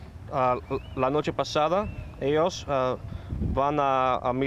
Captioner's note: speaking spanish